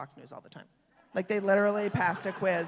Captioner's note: laugher, applause